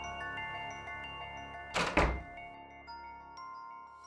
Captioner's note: door closing